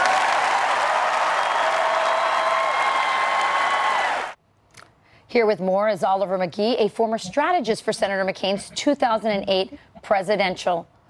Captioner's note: cheers and applause